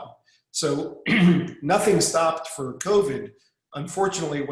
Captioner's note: clearing throat